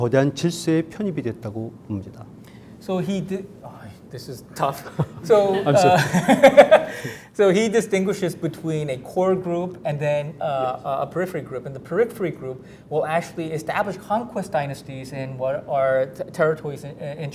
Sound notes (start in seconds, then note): 4.8 laughs; 4.9 audience laughing